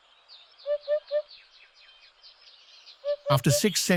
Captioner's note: birds chirping